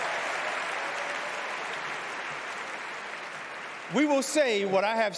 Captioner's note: cheers and applause